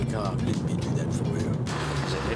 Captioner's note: deep voice